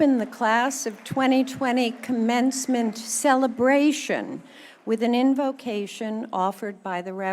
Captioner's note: cheers and applause